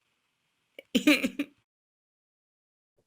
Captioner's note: laughter